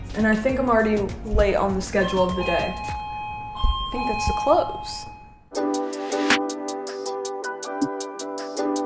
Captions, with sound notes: And I think I'm already late on the schedule of the day. [doorbell ringing] I think that's the clothes. [upbeat music]